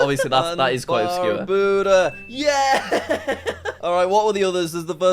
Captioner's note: laughing